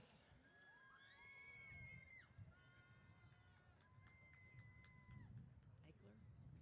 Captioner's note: cheers